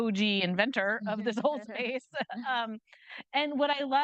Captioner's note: chuckles